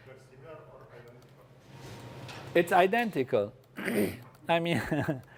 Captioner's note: cough; laugh